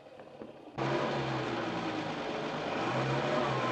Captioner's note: engine revs